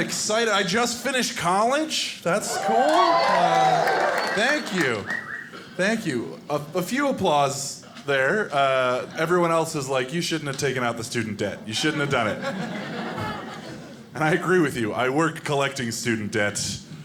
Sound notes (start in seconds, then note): 2.3 audience cheering; 11.6 audience laughing